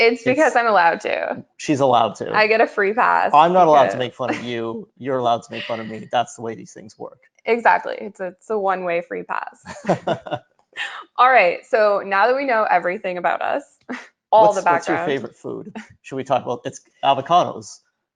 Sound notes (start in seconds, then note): 9.6 laughing